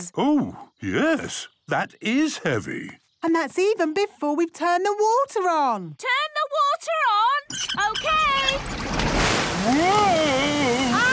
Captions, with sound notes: - Oh, yes! That is heavy. - And that's even before we've turned the water on! - Turn the water on? Okay! - (wheel squeaking) - Whooosh! - Whoah! Whoah!